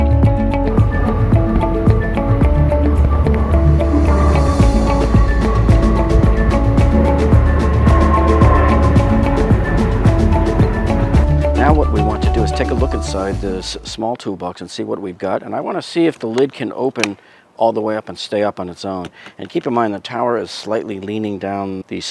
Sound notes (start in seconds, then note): 1.0 plane engine roaring; 1.0 upbeat music